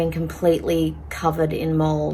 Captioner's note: none